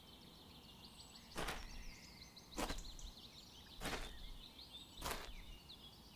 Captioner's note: footsteps slowly retreat